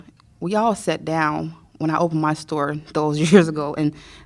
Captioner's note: laughter